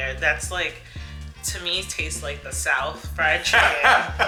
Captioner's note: laughs